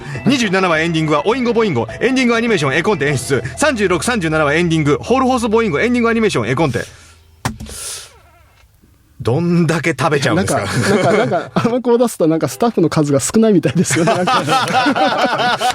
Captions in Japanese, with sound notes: 27 話エンディングはオインゴ。ボインゴエンディングアニメーションエコンテ演出。 3637 はエンディングホールホースボーイングエンディングアニメーションエコンテどんだけ食べちゃうんですか?なんかなんかあの子出すたなんかスタッフの数が少ないみたいですよね。なんか [鼻息] [笑い]